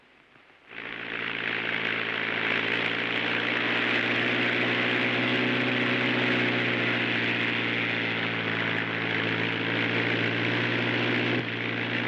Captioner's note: airplane rumbling